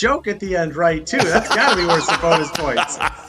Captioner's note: laughs